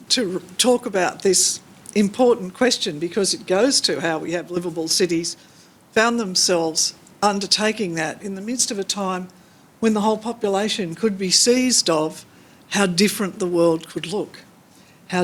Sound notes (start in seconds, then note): none